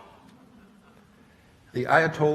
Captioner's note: laughter